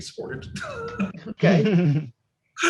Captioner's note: laughs